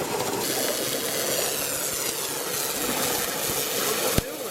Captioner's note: buzzing